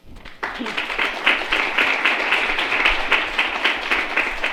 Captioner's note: applause